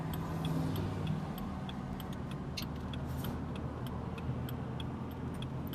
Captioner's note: blinker flashing